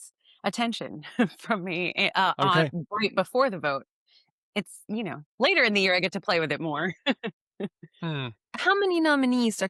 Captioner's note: laughs